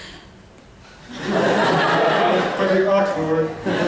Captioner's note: laughter